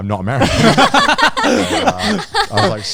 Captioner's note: all laughing